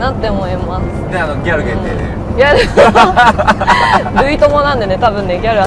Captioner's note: haha